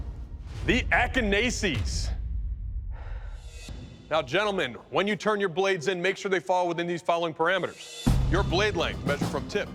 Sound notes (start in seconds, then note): 2.8 exhales deeply